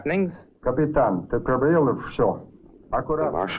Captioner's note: Marshall speaking in Russian